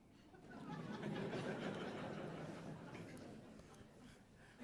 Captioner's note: audience laughs